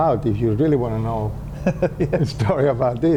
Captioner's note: laughs